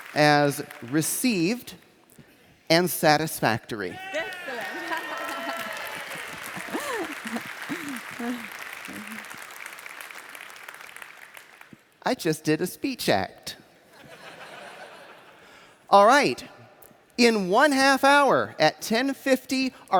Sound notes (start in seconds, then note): 4.0 laughs; 6.7 cheers and applause; 13.9 laughter